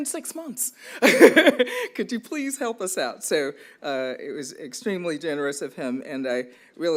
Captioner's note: laughs